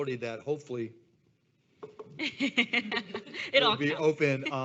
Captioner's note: knuckles rapping